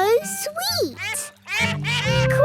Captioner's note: all laugh